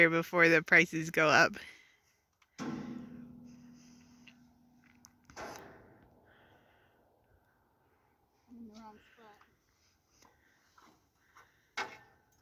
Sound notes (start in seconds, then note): 2.5 metallic bangs